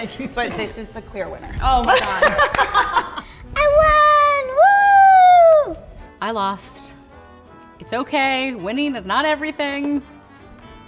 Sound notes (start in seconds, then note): 1.9 both laughing